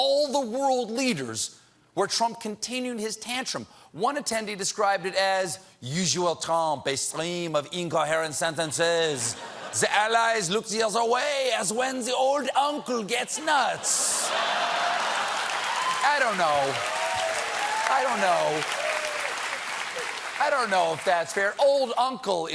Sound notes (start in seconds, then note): 8.2 french accent; 19.2 cheers and applause